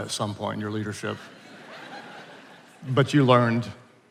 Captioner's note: attendees laughing